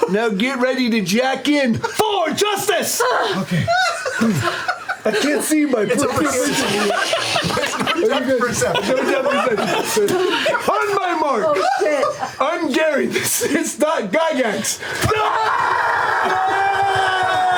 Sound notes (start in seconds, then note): 6.4 laughter; 15.3 yelling